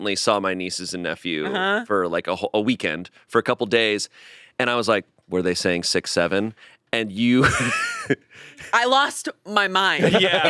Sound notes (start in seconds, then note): 7.4 laughing